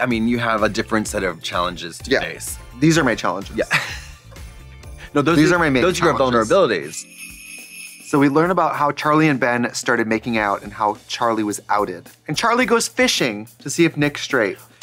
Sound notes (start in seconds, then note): 4.3 tittering; 7.5 sleigh bells jingling